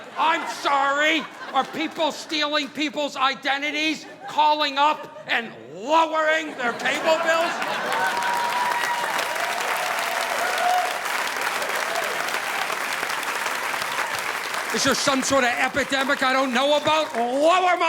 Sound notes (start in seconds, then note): 7.4 audience applauding